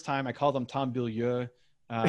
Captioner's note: laughs